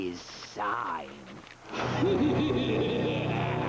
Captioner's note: laughing